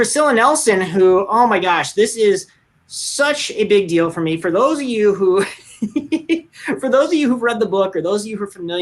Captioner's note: laughs